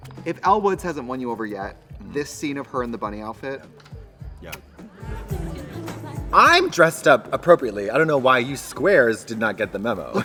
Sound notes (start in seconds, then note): 4.5 Trixie smooches